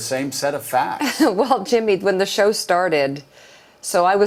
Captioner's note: chuckles